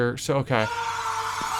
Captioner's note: face wall screams